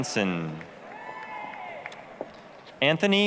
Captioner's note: applause, cheering